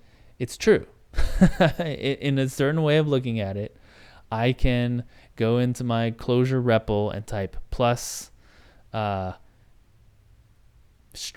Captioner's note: laughs